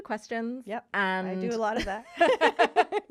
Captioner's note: laughing